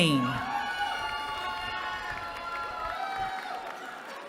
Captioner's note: cheering